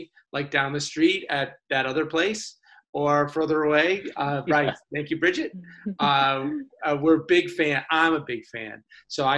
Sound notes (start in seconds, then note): 3.8 laughs